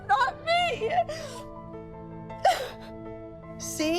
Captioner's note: sobbing